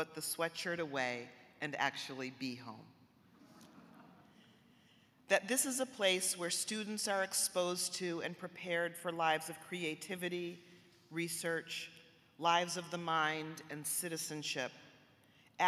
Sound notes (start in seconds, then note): 3.5 audience chuckling